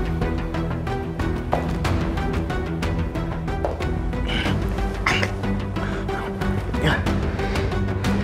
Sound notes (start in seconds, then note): 1.5 footsteps